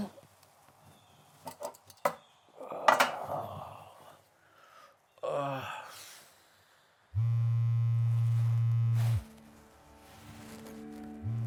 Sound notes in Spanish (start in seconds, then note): 0.1 Jonathan gime; 7.1 zumbido de teléfono celular